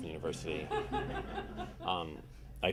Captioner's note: audience laughing